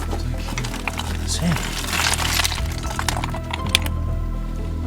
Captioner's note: rocks clattering